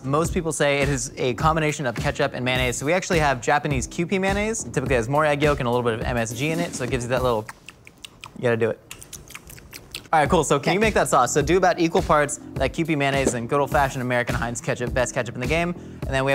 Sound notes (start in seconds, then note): 7.4 tongue clicking